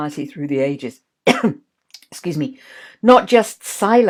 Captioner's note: coughs